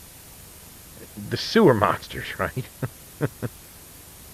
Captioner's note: chuckle